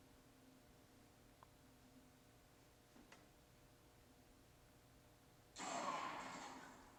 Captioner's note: gun shot